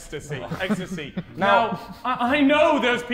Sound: Vikram chuckling

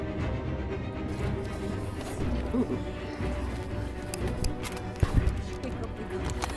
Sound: gravel shuffling

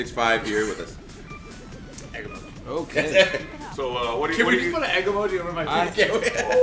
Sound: laugh

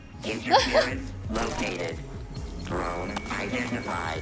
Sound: Sabrina laughs

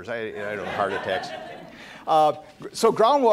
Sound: laughter

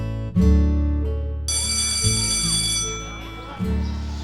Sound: bell

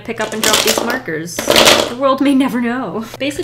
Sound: clatter

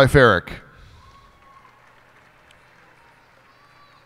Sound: cheers and applause

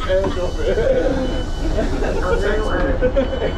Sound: passengers chat; train door beeps; intercom voice plays

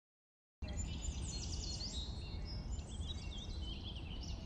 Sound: birds chirping

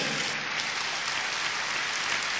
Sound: applause

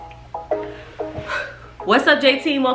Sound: upbeat instrumental music; sighing

